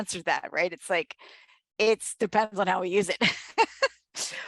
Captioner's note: laughs